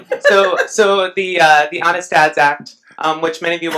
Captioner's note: laughs